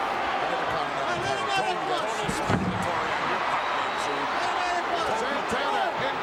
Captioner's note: commentators chattering; referee chattering